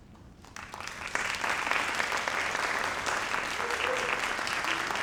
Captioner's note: audience applauds